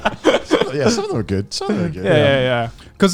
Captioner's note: laughing